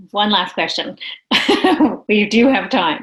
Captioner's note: laughing